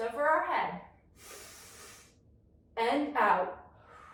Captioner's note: inhales deeply; exhales deeply